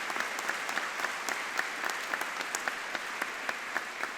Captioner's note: audience clapping